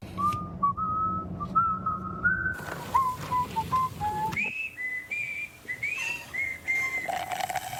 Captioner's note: whistling